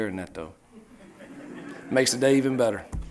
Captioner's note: reporters laughing